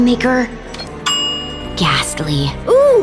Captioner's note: bell ringing